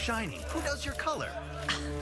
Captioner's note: scoff